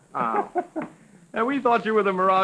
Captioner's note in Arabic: يضحك